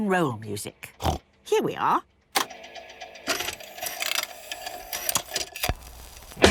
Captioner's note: clicks, whirring